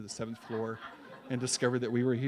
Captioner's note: laughs